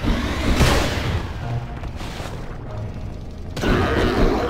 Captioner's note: monster roars